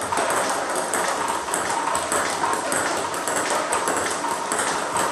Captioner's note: ball ping pong hitting continues